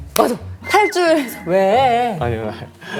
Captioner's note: haha